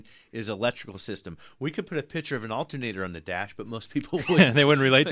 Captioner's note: both laugh